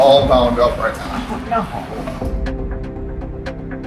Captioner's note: laughs